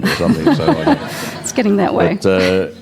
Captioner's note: audience Laughter